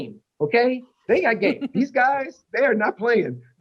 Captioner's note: laughter